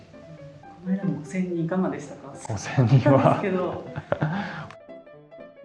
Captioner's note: laughs